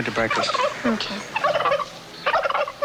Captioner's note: charlotte gobbling